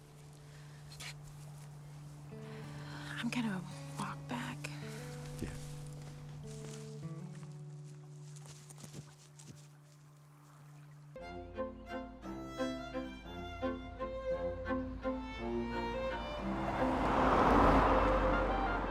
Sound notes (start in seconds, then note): 6.8 gentle music; 10.6 gentle classical music; 11.0 engine rumbling